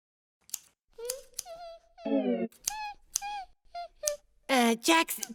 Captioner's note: scissors cutting; humming